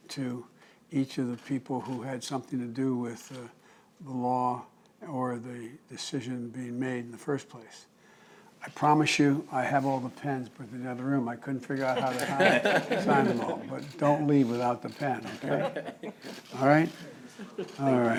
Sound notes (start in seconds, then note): 11.7 laughter